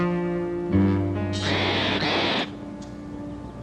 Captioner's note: ostrich screeches